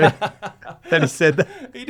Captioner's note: laughing